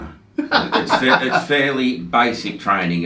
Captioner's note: laughs